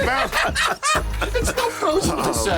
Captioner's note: laughter